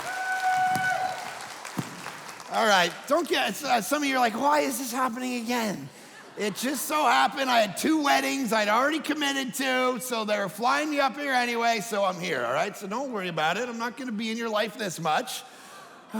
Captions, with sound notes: (audience cheering and clapping) All right. Don't get some of you're like why is this happening again? It just so happened I had two weddings I'd already committed to, so they're flying me up here anyway, so I'm here all right? So don't worry about it. I'm not gonna be in your life this much.